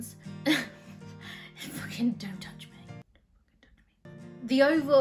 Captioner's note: laughs and whispers